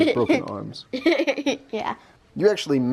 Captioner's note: laughs